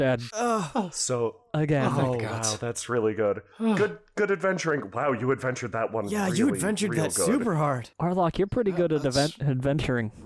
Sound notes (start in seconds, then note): 0.2 Ashe sighs with an emotion; 3.5 Markus sighs in relief